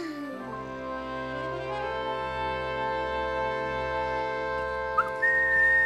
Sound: whistling

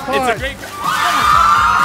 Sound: cheering and applause

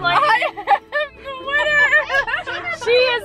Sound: laughing

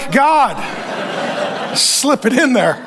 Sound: congregation laughing

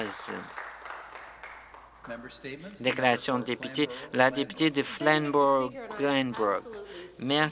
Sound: some Applause

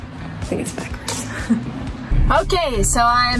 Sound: chuckles

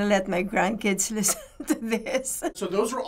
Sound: chuckles

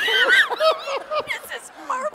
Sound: laughter

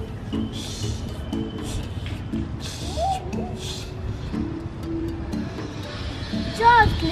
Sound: whistling

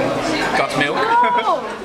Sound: laughs

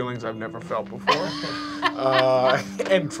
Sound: laughing

